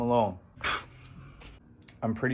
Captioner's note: pfffft